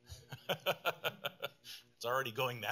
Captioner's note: laughs